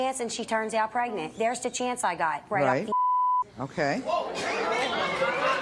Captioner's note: beeps